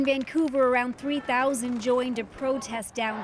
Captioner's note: applause